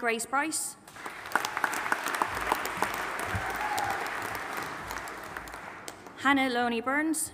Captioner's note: audience applauding and cheering